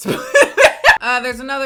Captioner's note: laughs